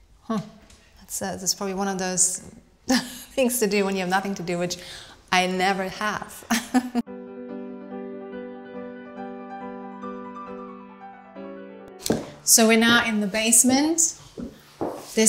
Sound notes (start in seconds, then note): 6.4 Claudia laughing; 7.1 lively music